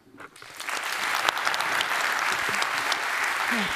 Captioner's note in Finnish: Applause